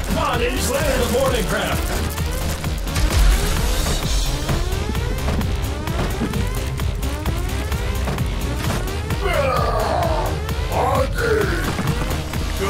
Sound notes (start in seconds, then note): 2.3 alarm blaring; 2.3 sparks crackling; 2.6 footsteps thumping; 9.1 Trog grumbles